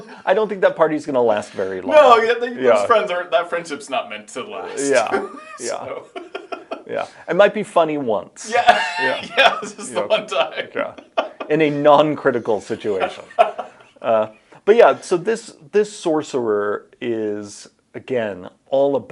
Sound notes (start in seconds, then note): 0.0 laughs; 4.8 chuckles; 8.4 laughs